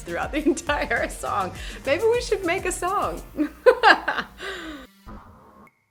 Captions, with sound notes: throughout the entire song. Maybe we should make a song. (laughs)